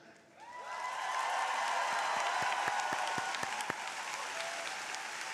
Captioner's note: crowd applauding